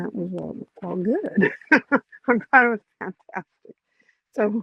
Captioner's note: laughs